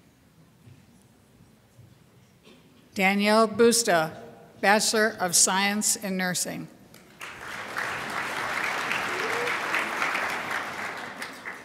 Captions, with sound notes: Danielle Busta, Bachelor of Science in Nursing. (crowd applauds)